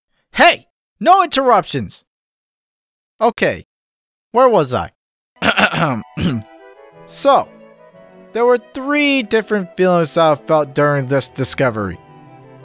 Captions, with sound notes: - Hey! No interruptions! Okay, where was I? *Clears Throat* So.. there were three different feelings I've felt during this discovery;